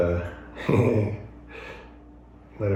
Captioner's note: chuckles